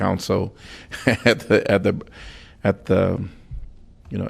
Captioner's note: laughter